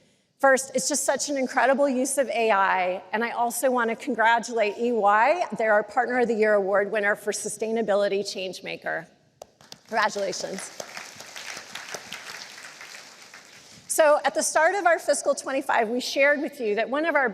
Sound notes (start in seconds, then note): 9.5 applause